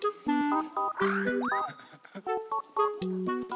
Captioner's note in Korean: 흐헣헣ㅎ